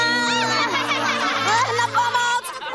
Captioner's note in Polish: uczniowie śmieją się